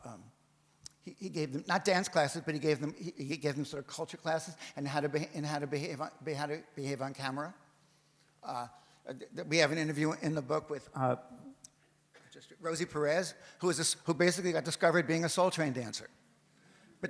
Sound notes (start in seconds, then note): none